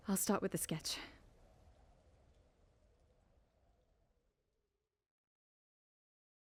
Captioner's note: all sound fades